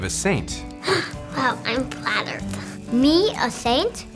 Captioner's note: gasps